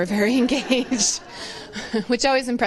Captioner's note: laughter